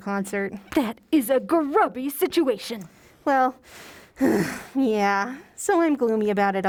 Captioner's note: sigh